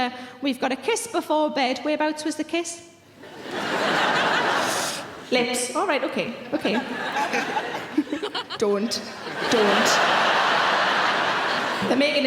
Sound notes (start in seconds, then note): 3.2 audience laughing; 6.4 audience laughing